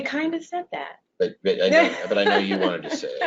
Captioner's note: laughs